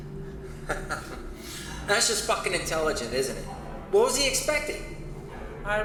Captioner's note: laughs